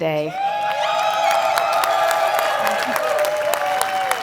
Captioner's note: cheering